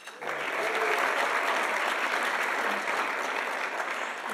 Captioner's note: audience applauding